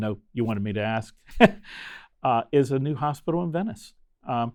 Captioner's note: chuckling